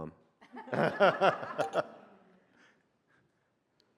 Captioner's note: group laughs